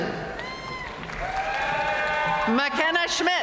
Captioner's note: audience cheering and applauding